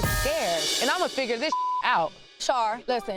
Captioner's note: beeps